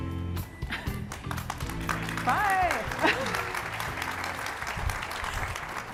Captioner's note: audience applauding